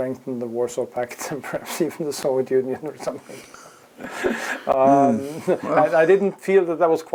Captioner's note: laugh